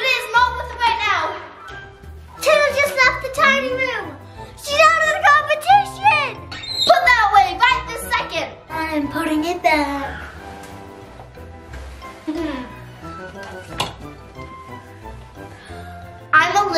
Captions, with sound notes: It's not worth waiting out. - Taylor just left the tiny room. She's out of the competition. (door opening) - Put that away right this second. - I am putting it back. (soft music)